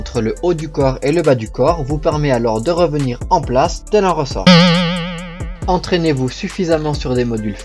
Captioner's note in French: bruitage